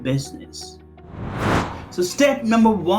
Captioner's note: air whooshing